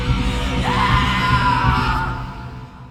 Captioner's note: screams